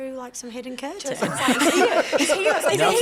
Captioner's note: laughter